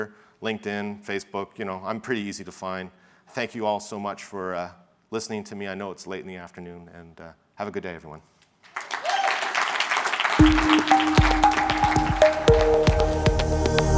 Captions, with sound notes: LinkedIn, Facebook. I'm pretty easy to find. Thank you all so much for listening to me. I know it's late in the afternoon, and have a good day everyone. (audience clapping) (upbeat music)